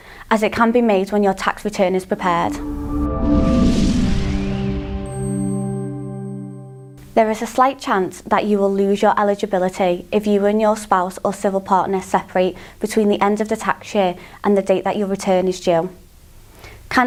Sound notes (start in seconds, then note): 2.4 melodic sting; 2.5 bell dinging